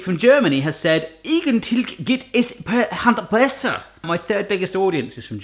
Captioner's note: foreign language